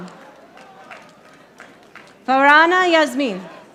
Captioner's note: audience applauding